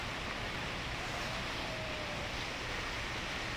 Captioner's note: water rushing